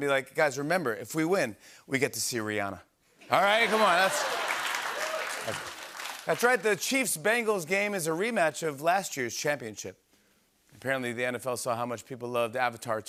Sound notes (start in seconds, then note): 3.4 laughter and applause